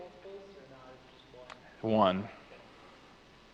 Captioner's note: voice faded off microphone